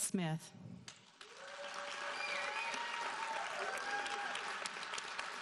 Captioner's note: audience cheering